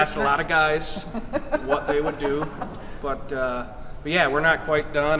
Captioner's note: laughing